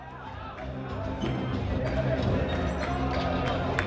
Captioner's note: audience clapping